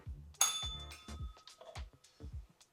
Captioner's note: bell rings